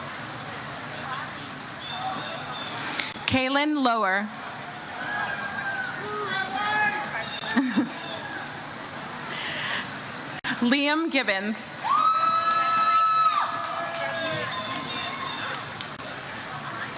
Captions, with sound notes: Kaylin Lower. Liam Gibbons. (audience cheers)